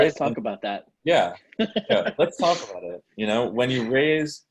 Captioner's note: chuckles